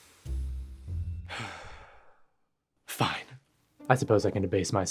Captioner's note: sighs